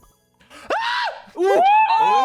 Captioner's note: screams; all exclaiming